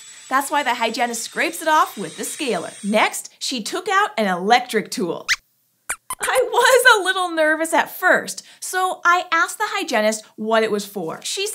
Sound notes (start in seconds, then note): 5.9 squeaks squeaks